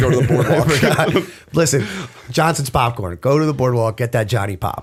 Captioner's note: laughter